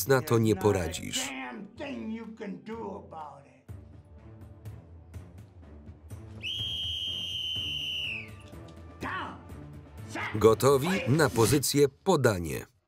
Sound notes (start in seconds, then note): 6.4 whistle blows